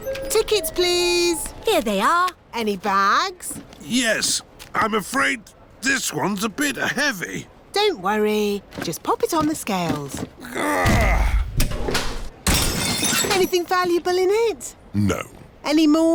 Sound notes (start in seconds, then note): 10.4 grunts; 12.6 crashes